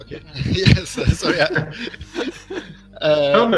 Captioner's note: смеются